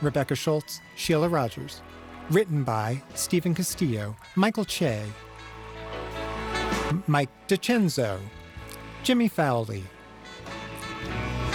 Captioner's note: cheers and applause continue